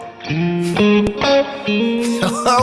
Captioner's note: laughs